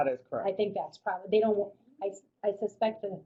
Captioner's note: voiceover